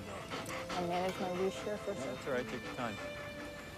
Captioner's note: chattering